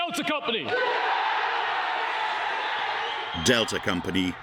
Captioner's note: students cheering